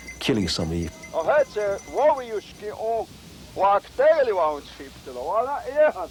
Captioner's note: speaking in foreign language